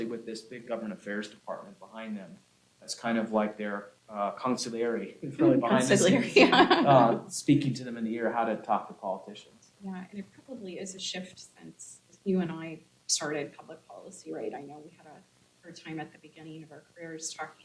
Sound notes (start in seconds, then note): 6.4 laughs